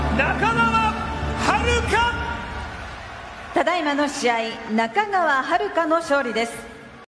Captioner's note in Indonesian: Tepuk tangan